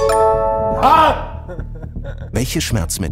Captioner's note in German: Lachen